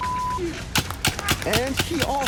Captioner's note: paintball gun firing